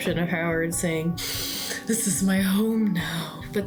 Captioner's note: sniff